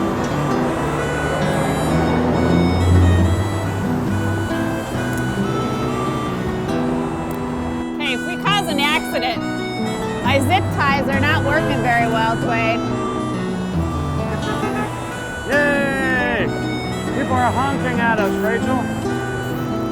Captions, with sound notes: Hey, if we caused an accident, my zip ties are not working very well, Duane. [car honks] Yey! People are honking at us, Rachel.